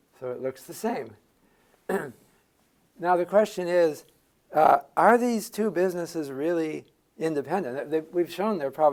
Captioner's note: cough